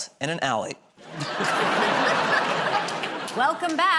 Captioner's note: laughter